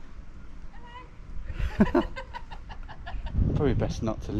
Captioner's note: laughs